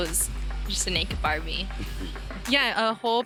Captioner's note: laughs